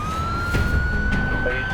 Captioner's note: sirens wailing; man speaking on radio